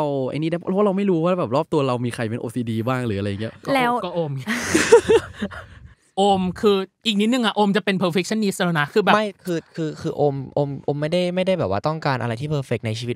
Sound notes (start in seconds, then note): 4.3 laugh